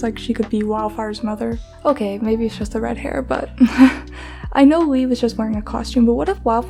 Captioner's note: laughs